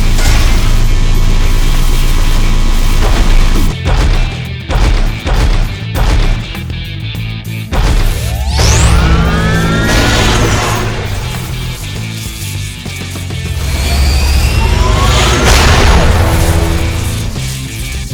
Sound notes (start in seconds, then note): 0.2 armor clanks; 3.0 steps thudding; 8.2 sword whirring; 9.9 sword crashes; 11.1 sword crackling; 13.4 sword whirring; 15.4 sword crashes